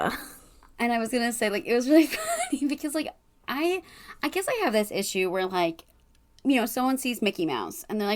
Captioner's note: laughing